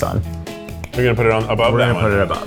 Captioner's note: hands clapping